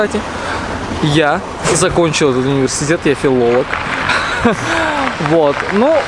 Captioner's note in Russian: смех